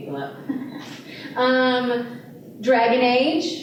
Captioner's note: laughter